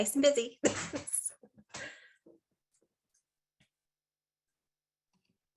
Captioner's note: chuckling